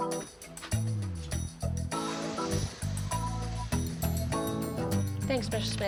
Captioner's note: opens door, footsteps